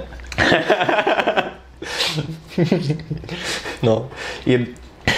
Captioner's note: laughing